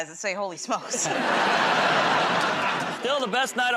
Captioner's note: laughter